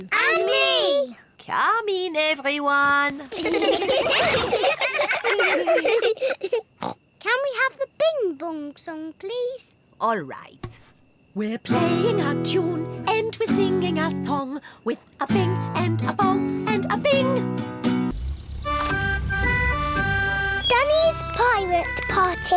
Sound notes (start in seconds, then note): 3.2 all giggling; 6.4 snorts